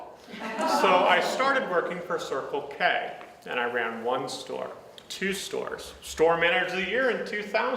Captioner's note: audience sighs